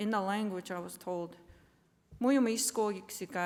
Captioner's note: non-english speech